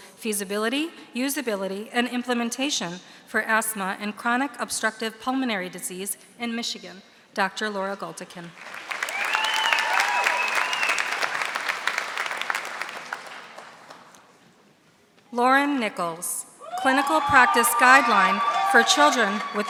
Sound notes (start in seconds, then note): 8.6 audience applauding; 16.6 audience cheering